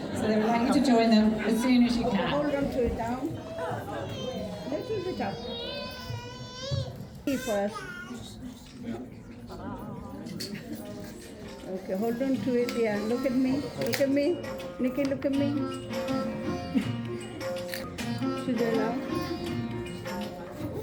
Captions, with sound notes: So they'd like you to join them as soon as you can. Hold onto it now. (children chattering) Hold onto it, yeah, look at me, look at me, Nikki, look at me. (upbeat music) Should they laugh?